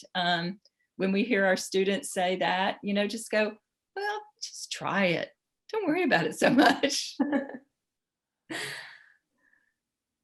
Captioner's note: laughs